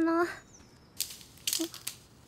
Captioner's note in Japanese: カリカリカリ